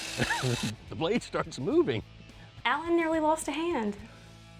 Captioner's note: laughs